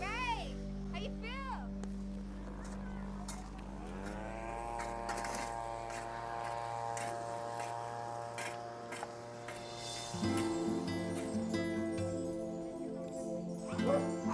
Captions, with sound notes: Guys, how do you feel?! (lawn equipment whirring) (soft acoustic guitar music)